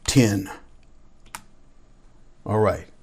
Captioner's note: keyboard clicks